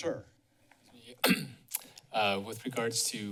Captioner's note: clears throat